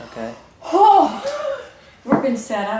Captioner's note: gasps